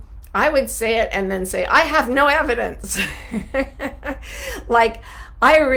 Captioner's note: laughs